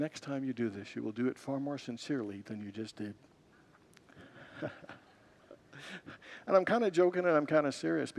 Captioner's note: congregants laugh